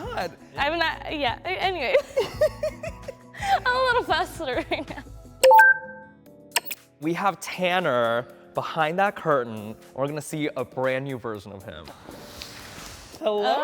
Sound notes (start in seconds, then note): 5.4 electronic clicking